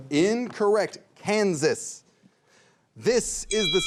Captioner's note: bell chimes